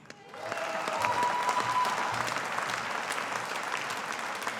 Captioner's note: audience applauding